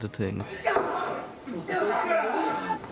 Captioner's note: yelling and grunting